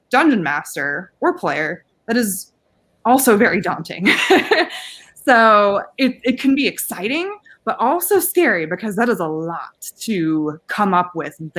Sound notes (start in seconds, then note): 4.0 laughing